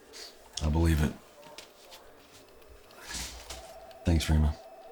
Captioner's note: phones ringing